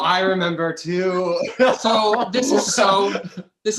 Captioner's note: laughs